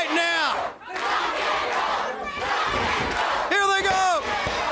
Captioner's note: crowd cheering